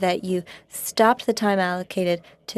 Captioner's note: speaking French